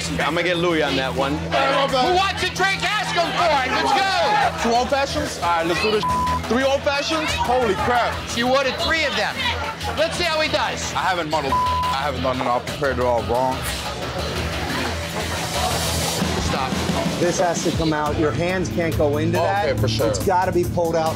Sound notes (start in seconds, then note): 5.8 beep; 11.4 beep; 14.1 intense music